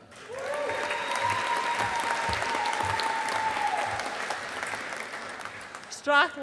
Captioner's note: audience applauding